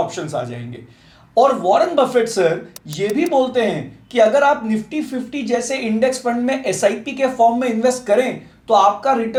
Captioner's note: sip